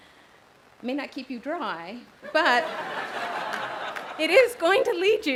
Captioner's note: audience laughs loudly